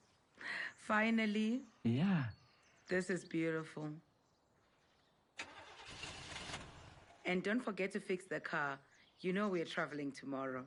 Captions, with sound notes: -Finally! -Yeah! This is beautiful! [car engine fail start] And don't forget to fix the car, you know we traveling tomorrow.